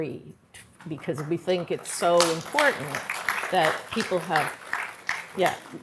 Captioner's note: applause